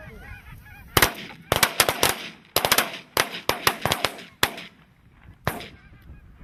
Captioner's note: gun shots